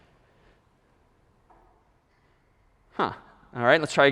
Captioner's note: silence